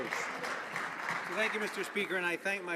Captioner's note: some applause